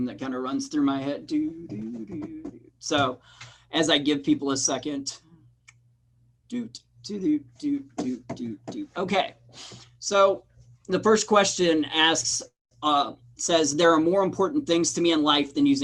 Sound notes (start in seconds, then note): 1.2 man humming; 7.6 man humming